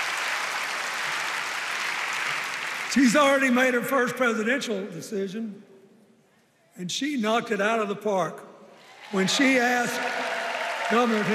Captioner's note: cheers and applause